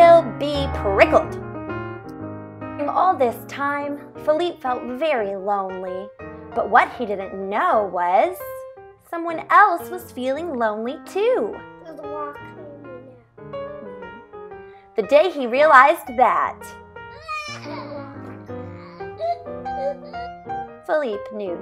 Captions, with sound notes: During all this time, Felipe felt very lonely, but what he didn't know was . . . someone else was feeling lonely too. The day he realized that . . . ***child sobbing *** Felipe knew just what to do.